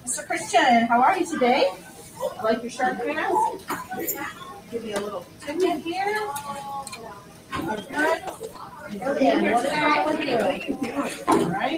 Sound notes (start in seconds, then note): 4.6 background chatter